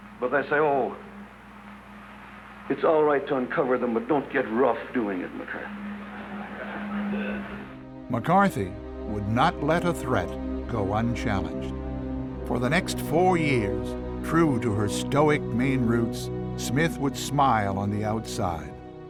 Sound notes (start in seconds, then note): 5.5 congregation chuckles; 6.7 slow dramatic music